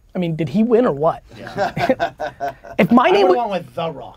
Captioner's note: group laughter